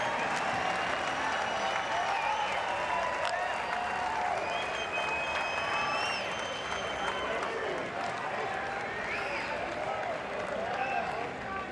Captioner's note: cheers